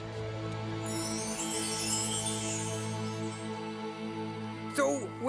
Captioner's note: magic twinkling